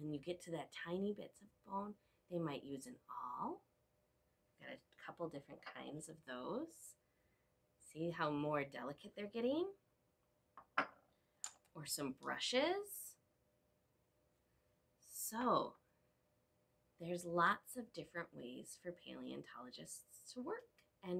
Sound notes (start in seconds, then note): 13.2 silence